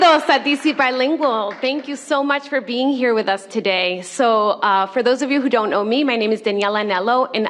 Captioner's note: cheers and applause; speaking spanish